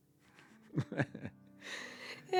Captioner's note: laughter